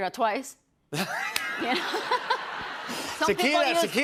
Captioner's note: laughter